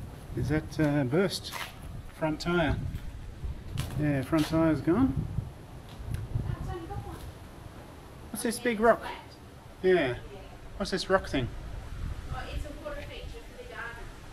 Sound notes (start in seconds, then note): none